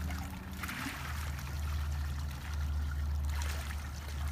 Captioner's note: water splashing